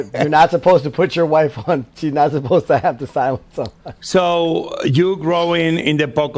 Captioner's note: laughs